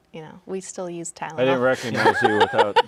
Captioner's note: laughing